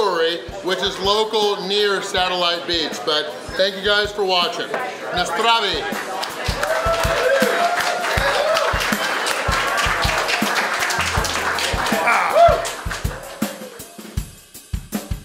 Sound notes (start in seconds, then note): 5.9 foreign language; 7.5 cheering